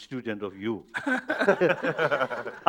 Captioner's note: laughter